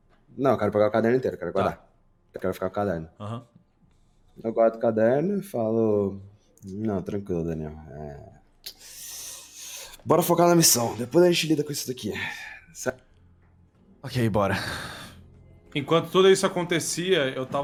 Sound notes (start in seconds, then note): 8.7 tshhhh